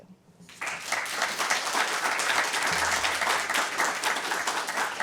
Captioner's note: applause